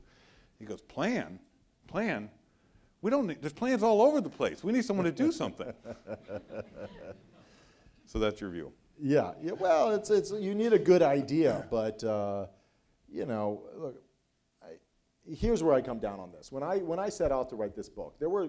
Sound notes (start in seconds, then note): 5.0 laughs